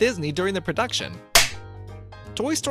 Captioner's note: film clapper sound